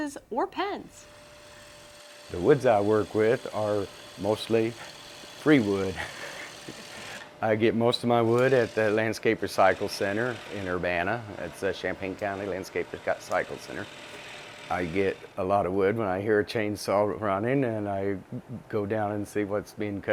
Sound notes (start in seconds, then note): 5.9 laughing